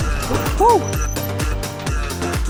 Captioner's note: yelps in excitement